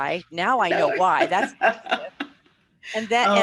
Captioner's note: laughter